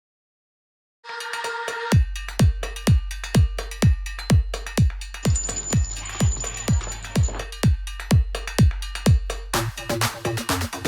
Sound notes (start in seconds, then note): 5.3 bell ringing insistently